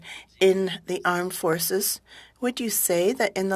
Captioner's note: speaking french